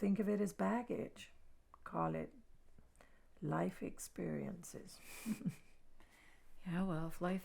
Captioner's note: chuckles